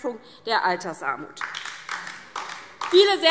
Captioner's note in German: Beifall DIE LINKE - Unruhe